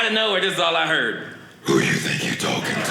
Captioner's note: deep voice